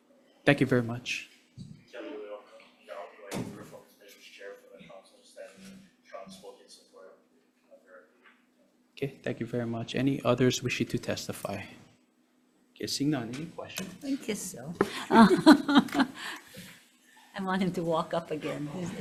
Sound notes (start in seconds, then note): 14.8 laughs